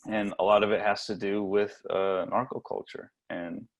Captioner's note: none